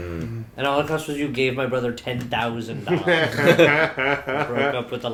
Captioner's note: laughter